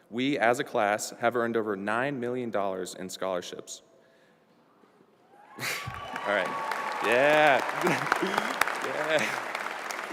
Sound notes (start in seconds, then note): 5.6 applause